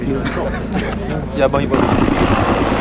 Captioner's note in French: rires